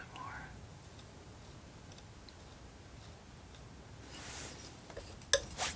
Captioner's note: tapping